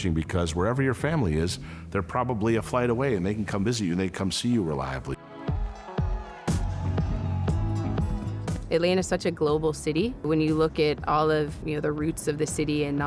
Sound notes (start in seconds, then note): 5.1 upbeat music; 5.3 crowd shouting